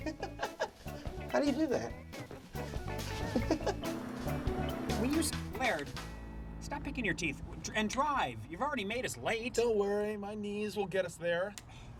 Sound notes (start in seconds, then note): 0.0 laughs